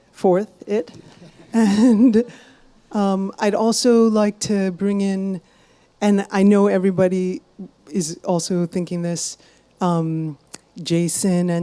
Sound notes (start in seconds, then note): 0.9 chuckles